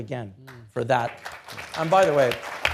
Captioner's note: audience applauding